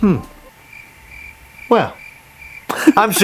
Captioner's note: crickets